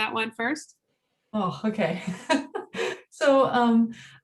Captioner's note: chuckles